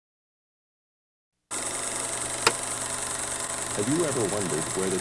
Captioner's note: projector clicking